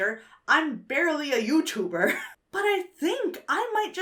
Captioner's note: wheezes